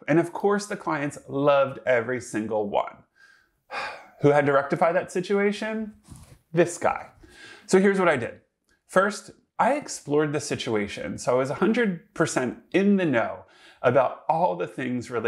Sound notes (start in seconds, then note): 3.7 sighing